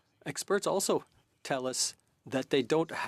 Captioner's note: speaking French